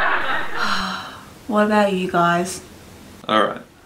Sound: laughing; other murmur in agreement; sighs

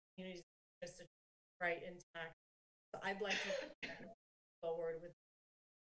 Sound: coughing

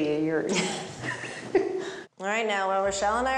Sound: chuckles

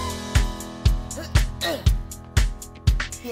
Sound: upbeat music; grunts

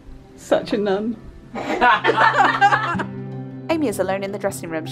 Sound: they all laugh

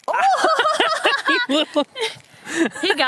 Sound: surprised exclamations

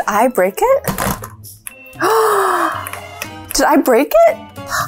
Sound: gasps

